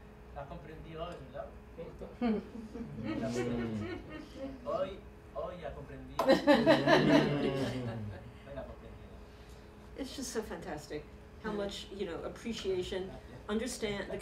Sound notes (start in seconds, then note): 0.1 non-english speech; 2.2 chuckling; 4.9 non-english speech; 6.2 laughter